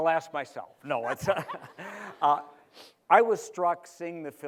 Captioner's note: laughter